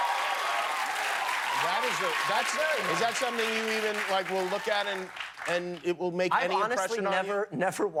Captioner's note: cheers and applause